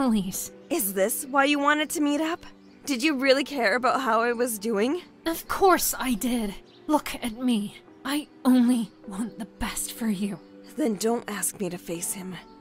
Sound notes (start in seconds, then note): none